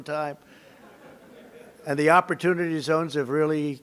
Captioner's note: laughter